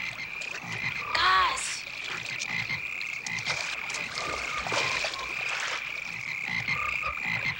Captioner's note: frogs croaking